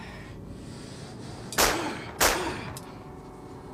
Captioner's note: gunshots